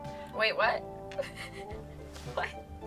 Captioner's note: laughs